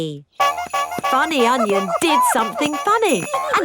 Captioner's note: shoes honking